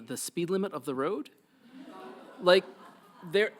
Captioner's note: audience laughs